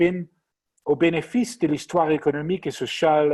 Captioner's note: speaking french